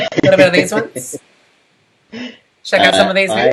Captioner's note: laughs